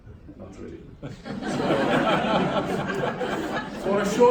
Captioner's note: laughter